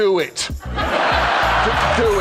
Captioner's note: laughter